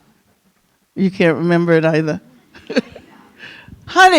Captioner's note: chuckles